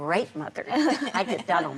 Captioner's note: laughter